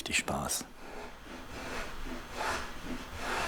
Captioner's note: dull scraping sound